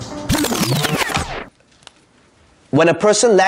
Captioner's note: record scratching